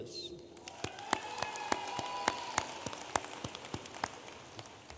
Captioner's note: audience applauding